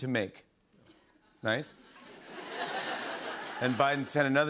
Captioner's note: laughter